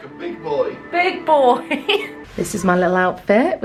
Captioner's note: laughing